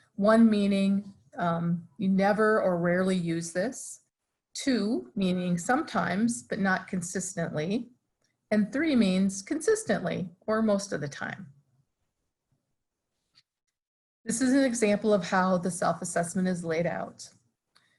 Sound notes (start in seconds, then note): none